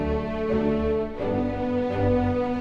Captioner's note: none